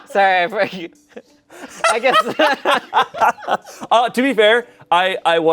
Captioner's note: everyone laughs